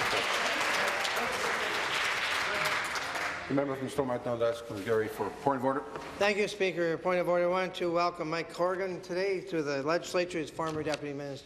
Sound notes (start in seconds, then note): 3.4 applause